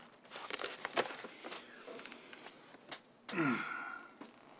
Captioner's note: sighs